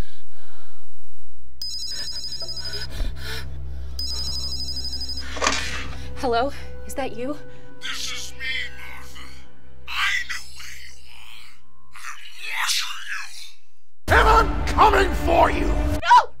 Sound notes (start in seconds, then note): 1.7 telephone rings; 2.8 Martha gasping; 5.3 telephone clatters